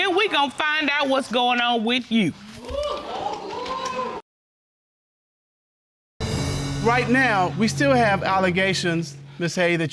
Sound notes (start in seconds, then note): 2.6 audience cheering